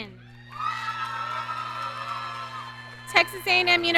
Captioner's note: audience cheering